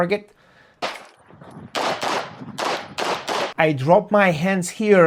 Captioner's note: gunshots banging